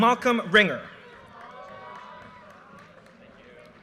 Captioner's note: audience cheers and applause